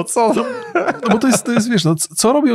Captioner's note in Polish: śmiech